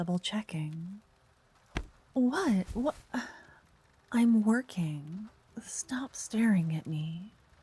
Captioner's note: cloth noise